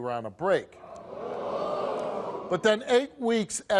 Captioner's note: audience gasping